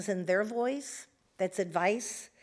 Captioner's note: none